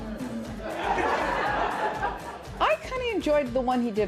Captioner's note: laughter